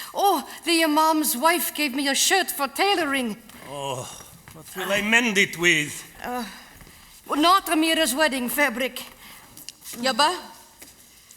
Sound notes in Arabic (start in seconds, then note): 3.2 همهمات; 10.6 بالعربية